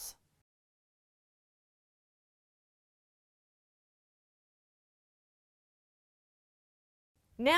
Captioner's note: no Sound Present